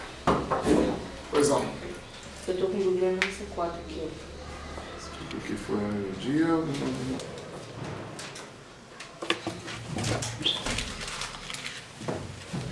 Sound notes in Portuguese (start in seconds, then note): 10.4 assovio